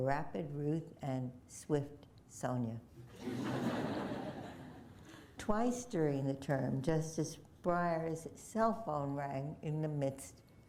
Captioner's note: laughter